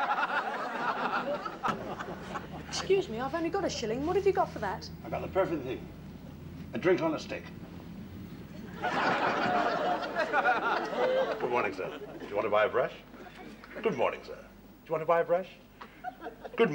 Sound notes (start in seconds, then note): 0.0 audience laughs; 8.5 audience laughs